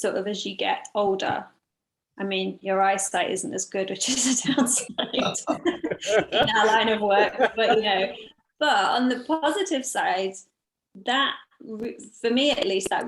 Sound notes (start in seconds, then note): 4.5 laugh